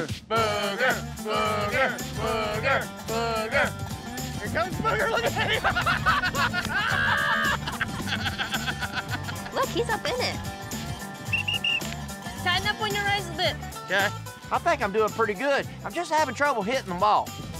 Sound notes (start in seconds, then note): 0.3 all cheering; 4.9 laughs; 11.2 whistle blows